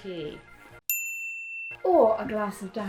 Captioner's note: bell chime